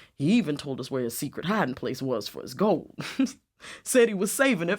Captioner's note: laughs